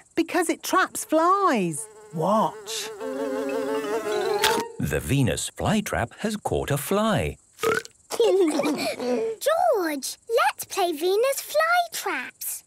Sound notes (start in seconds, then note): 3.6 buzzing; 3.6 chomps; 7.6 burps